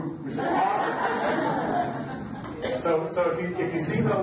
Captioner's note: audience laughs